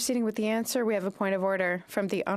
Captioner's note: speaking French